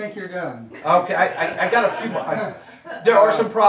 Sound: audience laughing

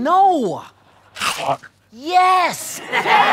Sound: bite

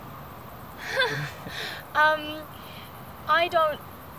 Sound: laughs

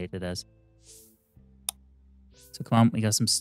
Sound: clicking

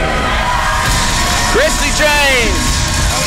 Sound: audience cheering

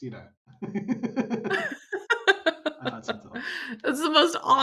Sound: laughter

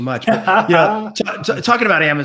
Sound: laughs

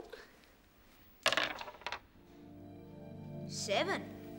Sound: dice clattering

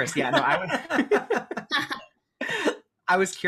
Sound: all laugh

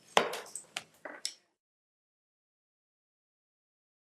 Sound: gavel banging

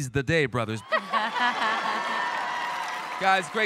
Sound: judges laugh; audience cheers

